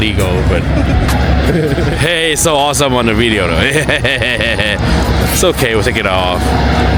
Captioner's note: stupid Laughters